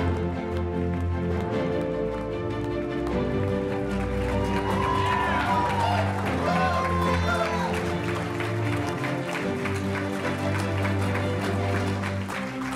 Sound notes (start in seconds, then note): 3.8 audience cheering; 4.0 audience applauding